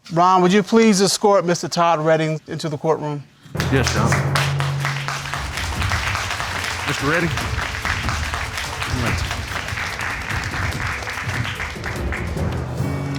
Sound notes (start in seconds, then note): 4.9 applause